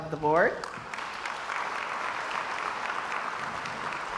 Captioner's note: crowd applauds